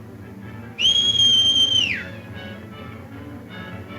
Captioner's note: whistles